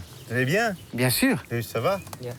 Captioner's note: speaking in foreign language